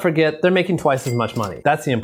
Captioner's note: cash register clings